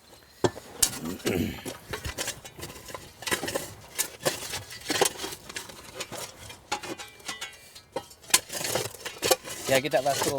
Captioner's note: cough